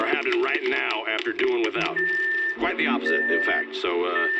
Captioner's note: microwave beeping